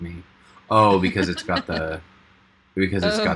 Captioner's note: laughing; laughs